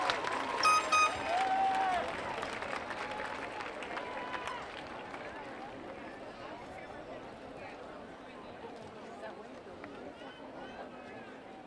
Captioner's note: applause